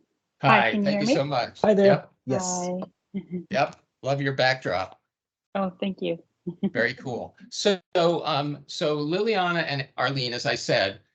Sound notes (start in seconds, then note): 6.4 giggling